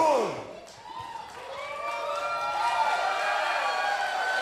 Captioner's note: crowd cheering